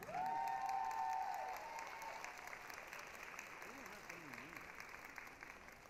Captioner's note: applause, cheering